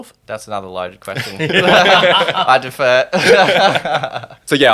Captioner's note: everyone laughing